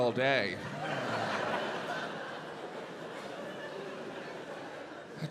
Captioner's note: audience laughs